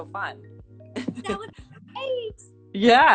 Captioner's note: laughs